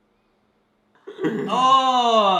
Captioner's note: laughs